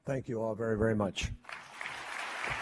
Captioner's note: applause